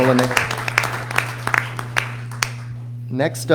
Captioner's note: applause